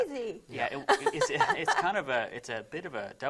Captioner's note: chuckling